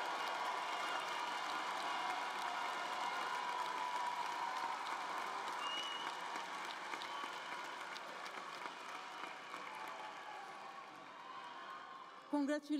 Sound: cheers and applause

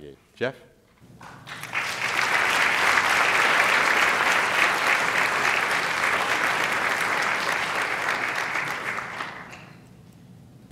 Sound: applause

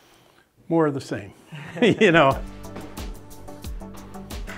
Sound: laughs

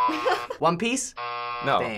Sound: buzzer

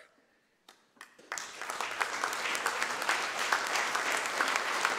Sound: audience applause

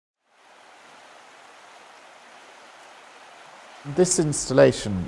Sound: river flowing

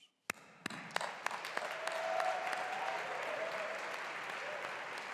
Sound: graduates applauding

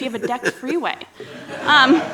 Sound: laughter

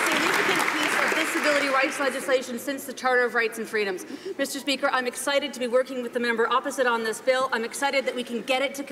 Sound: some applause

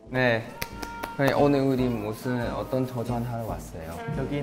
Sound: rubbing

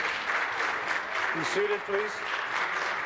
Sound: applause

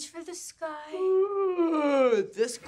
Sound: yawning

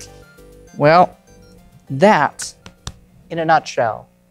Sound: taps cards

